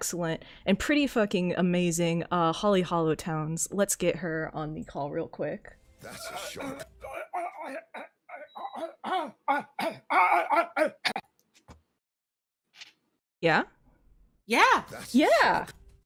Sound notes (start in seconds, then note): 6.0 gurgling noises; 8.9 continues gurgling coughing noises